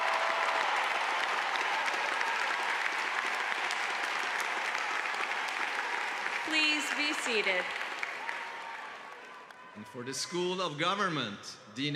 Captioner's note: cheers and applause